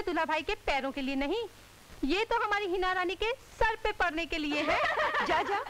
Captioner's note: Laughs